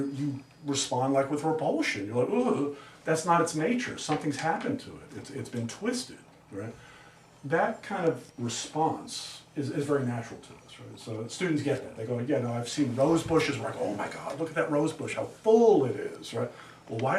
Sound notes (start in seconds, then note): none